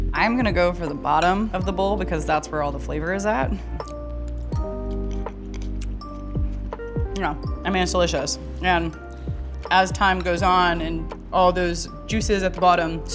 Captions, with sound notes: I'm gonna go for the bottom of the bowl because that's where all the flavor is at. [munching] No, I mean it's delicious, and as time goes on and all those juices at the bottom